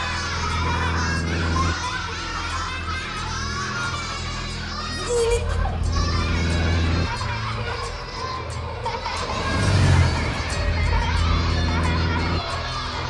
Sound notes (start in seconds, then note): 0.1 children laugh; 7.5 laughing sounds echo